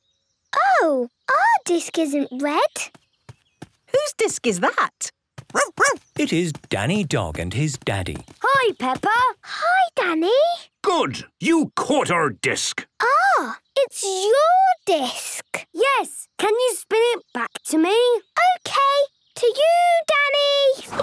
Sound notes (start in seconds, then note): 5.5 barking